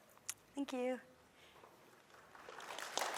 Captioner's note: applause